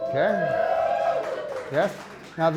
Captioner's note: applause